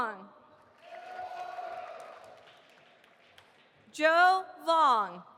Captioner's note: audience applauding